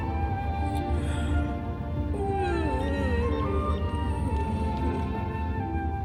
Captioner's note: yawning